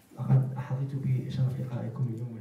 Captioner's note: speaking in foreign language